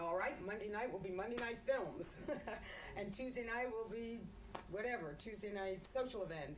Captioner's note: laughter